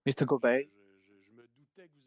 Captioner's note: speaking French